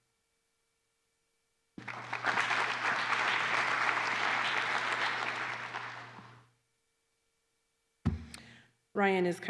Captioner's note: applause